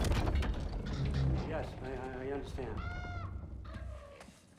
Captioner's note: caw